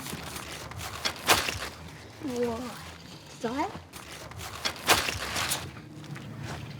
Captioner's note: gardening noises